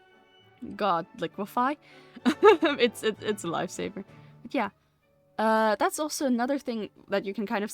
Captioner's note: laughs